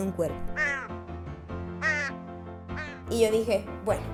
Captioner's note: crow sounds